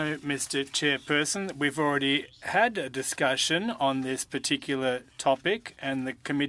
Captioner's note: speaking French